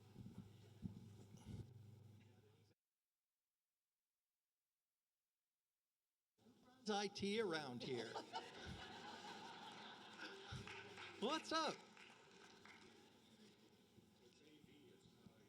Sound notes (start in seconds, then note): 7.8 laughter